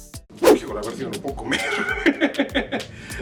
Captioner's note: laughter